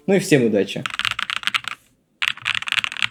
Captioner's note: typing